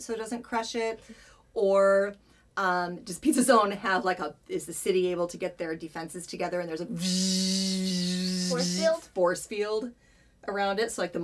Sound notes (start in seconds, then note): 6.9 force field buzzing noise